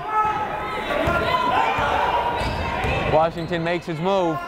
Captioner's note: yelling